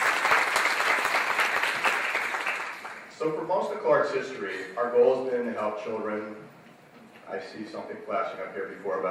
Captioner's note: applause